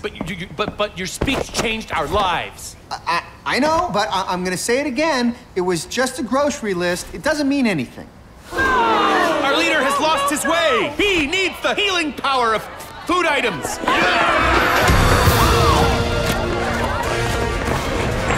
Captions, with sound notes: [stuttering] But you- you-- but-- your speech changed our lives! [stuttering] I know. But I'm gonna say it again. It was just a grocery list. It doesn't mean anything. [Tommies groaning] Our leader has lost his way! He needs the healing power of food items! [all screaming aggressively]